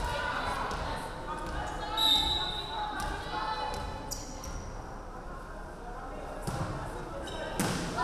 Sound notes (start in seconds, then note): 2.0 referee whistling